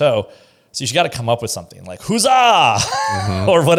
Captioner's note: laughs